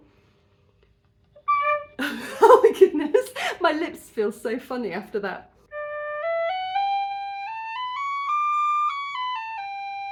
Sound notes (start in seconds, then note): 2.0 laughing